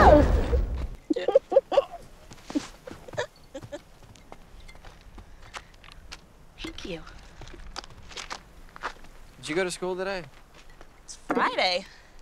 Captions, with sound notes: (woman giggling) (woman laughs) "Thank you." (footsteps in rocks) "Did you go to school today?" "It's Friday"